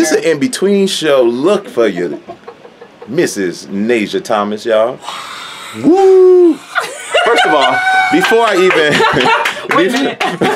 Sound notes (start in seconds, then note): 5.3 cheering; 6.5 laughing